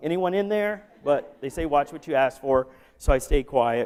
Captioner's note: laughter